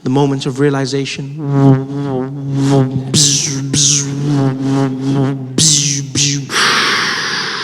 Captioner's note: Light Sabre sound; heavy breathing